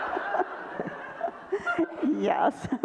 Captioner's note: audience laughter